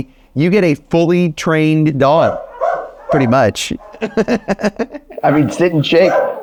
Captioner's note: laughs